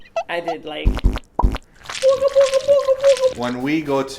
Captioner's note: squeaking sound; squelching sounds